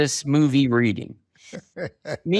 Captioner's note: chuckles